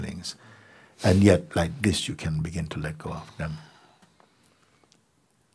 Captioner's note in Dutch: klikt